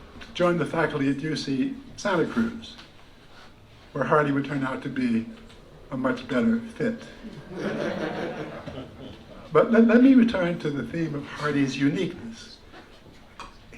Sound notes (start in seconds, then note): 7.2 laughter